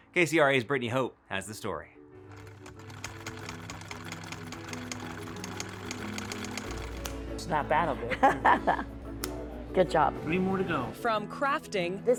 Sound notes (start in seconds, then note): 2.5 soft music; 8.2 teacher laughs